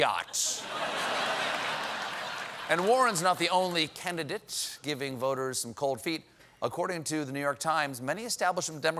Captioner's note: laughter